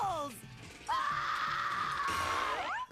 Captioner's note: screaming